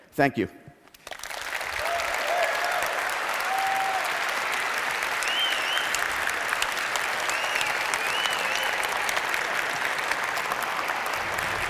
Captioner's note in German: Applaus